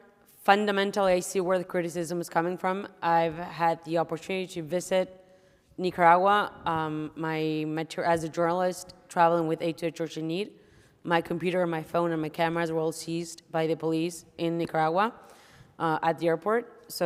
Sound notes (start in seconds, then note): none